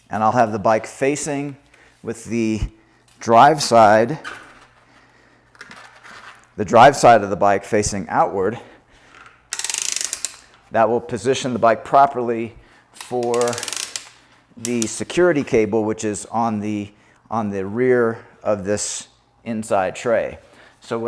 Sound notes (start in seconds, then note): 4.3 wheels squeaking; 9.5 platform arm rattling